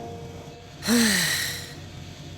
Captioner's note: regretful breath; sigh